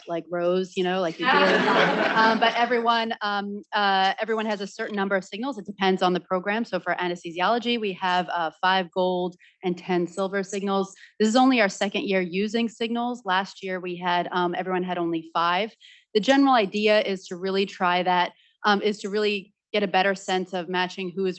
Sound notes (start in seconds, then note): 1.2 students laughing